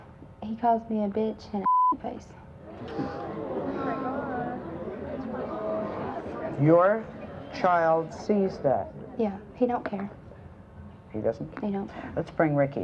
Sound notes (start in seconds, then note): 1.6 beep; 2.7 audience gasps